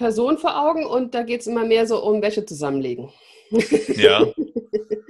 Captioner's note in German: lacht